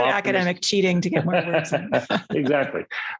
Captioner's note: both laughing